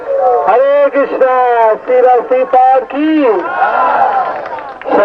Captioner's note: everyone clapping